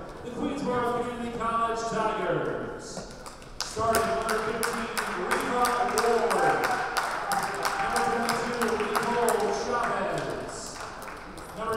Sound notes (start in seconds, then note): 2.9 players applauding; 6.4 players applauding; 10.2 players applauding